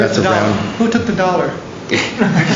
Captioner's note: laughter